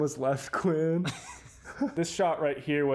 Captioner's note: laughing